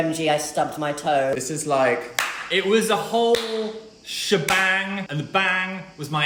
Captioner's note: claps